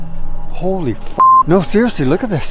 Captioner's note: beep